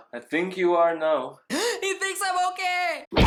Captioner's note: gasps